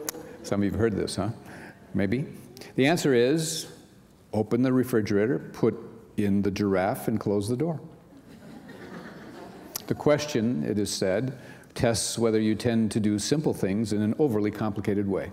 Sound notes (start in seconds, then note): 8.1 laughter